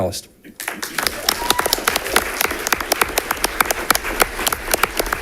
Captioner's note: audience applauding